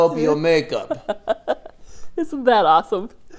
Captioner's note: laughs